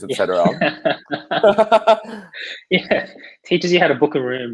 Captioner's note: laughing